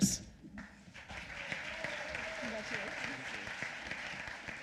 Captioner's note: applause